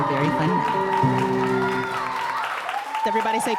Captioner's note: audience cheering and applauding